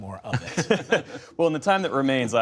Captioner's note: laughter